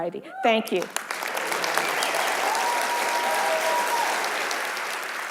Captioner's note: audience applauding